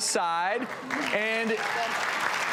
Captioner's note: audience applauds